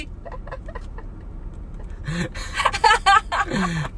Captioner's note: laughs